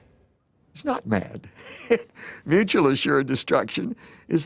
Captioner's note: laughs